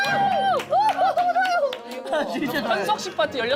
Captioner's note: giggle